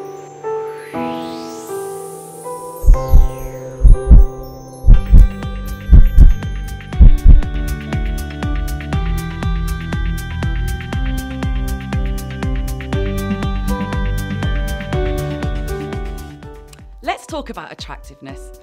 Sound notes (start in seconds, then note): 0.0 piano gently playing; 0.8 wind blowing; 2.9 heart beating